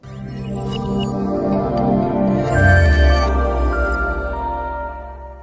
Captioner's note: electronic sounds